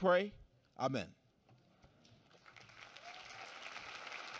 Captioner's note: applause